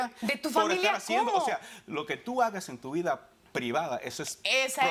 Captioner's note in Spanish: Hablan al unísono